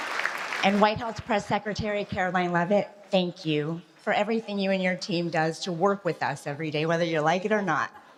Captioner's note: applause